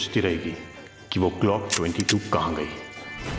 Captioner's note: Gun loading